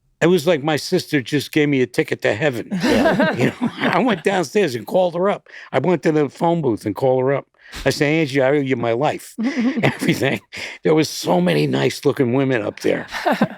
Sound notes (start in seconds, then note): 2.6 all laughing softly